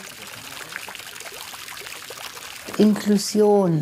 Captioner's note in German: Plätschern